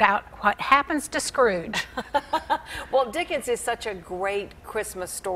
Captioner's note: laughs